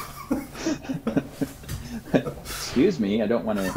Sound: laughing

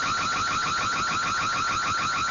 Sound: nats: stealing from car/alarm

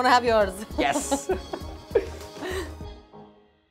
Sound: both laugh

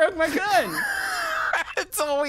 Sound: laughing

